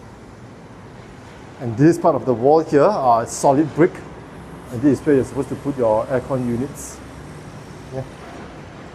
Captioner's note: outdoor compressor